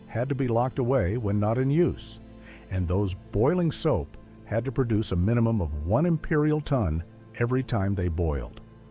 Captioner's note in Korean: 영국식 톤